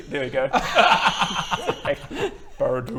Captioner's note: super impressed laughter